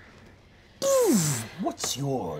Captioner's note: imitates whizzing